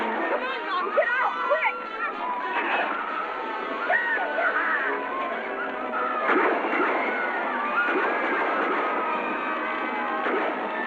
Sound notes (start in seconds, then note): 6.2 gunshots; 6.5 screaming